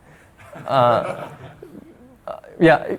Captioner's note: audience laughing